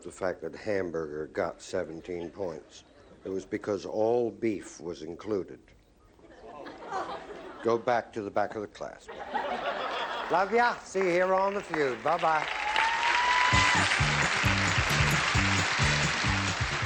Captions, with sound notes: that hamburger got 17 points, it was because all beef was included. - Oh. - Go back to the back of the class, please. [laughter] Love you. I'll see you here on the Feud. Bye-bye. [cheering] [applause, theme music]